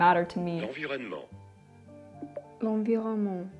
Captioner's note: narrator speaks in French